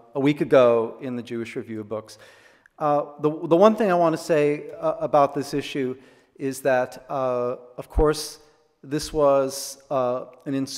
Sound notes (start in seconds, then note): none